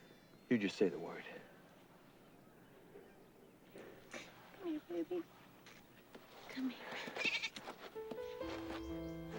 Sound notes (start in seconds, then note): 4.0 crying; 7.1 bleats